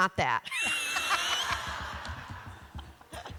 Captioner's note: laughter